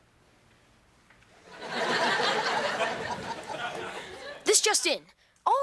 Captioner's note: audience laughing